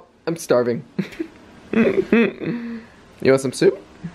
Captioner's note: laughter